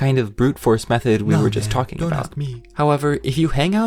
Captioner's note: villager mumbles in apathy